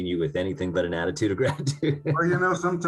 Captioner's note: laughing